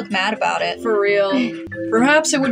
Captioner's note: chuckle